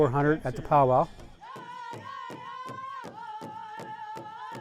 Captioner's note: chanting